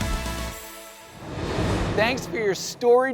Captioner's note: air whooshing